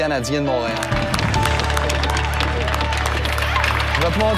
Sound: applause, cheering

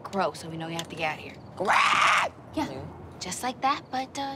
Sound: caws hoarsely

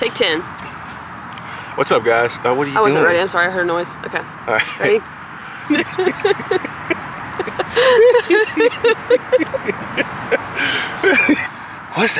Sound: laughs

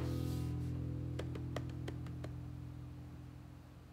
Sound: pats table

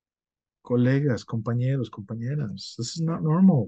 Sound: speaks in foreign language

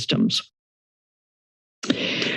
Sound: silence; inhales

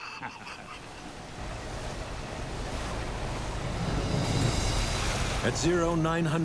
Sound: laughing; waves swishing; wind howling

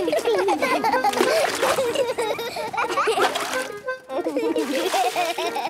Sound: excited laughter

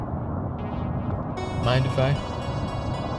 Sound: none

